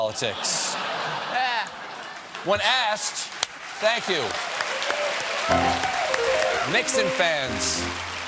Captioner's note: applause